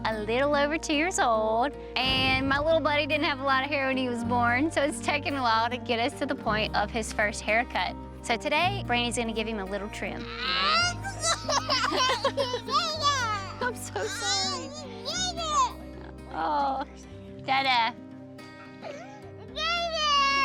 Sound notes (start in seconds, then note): 10.2 crying; 18.6 crying